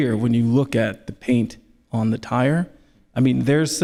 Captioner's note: none